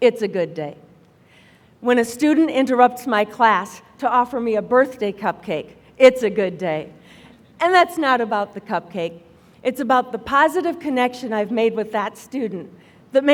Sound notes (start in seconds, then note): none